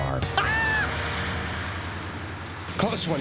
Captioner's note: screams